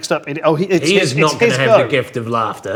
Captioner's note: overlapping chattering